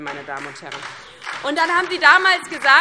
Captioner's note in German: Beifall DIE LINKE und SPD